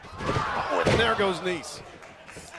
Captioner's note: crowd chatter